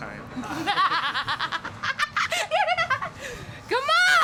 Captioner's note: evil laugh